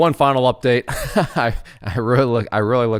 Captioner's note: laughs